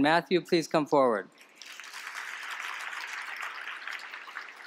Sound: applause

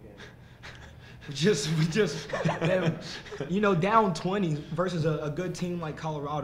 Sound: laughs

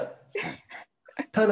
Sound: laughs

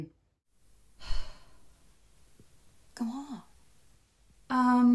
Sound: sighs; whispers

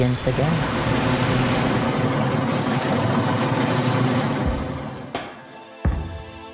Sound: waves crashing

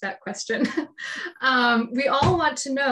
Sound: chuckles

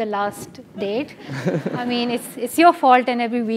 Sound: laugh

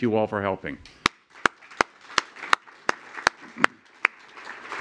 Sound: applause

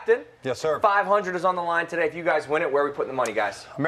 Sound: none

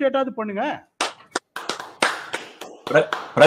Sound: applauds

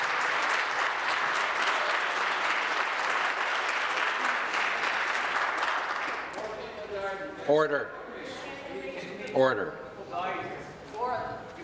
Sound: some Applause

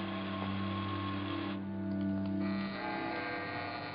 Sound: door buzzing

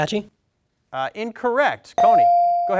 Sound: bell dings

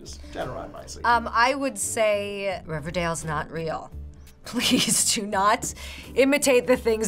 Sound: laughs

